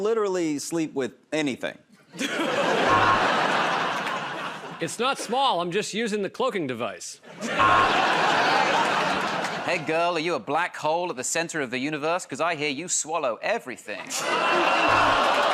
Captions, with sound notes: -Um, I'll, I'll literally sleep with anything. [ Laughter and applause ] [ Buzzer ] -It's not small. I'm just using the cloaking device. [ Laughter and applause ] [ Buzzer ] -Hey, girl, are you a black hole at the center of the universe? Because I hear you swallow everything.